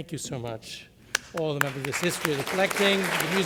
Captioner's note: applause